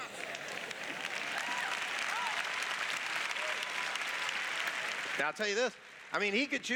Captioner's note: applause